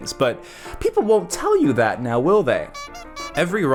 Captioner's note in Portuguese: música de palhaço; música de palhaço; fon fon